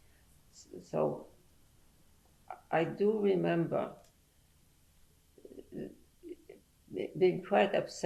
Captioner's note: pauses for 3 seconds